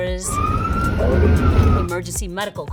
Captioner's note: siren wailing